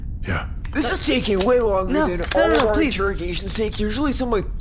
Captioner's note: threatening noises